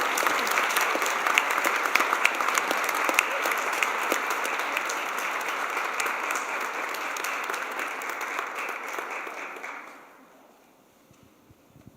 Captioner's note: applause